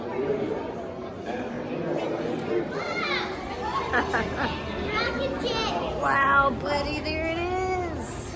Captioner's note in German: lacht